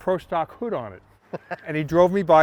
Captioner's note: laughing